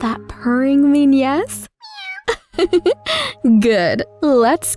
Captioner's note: Joy meows